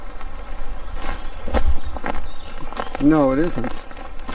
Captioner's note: woodchips crunching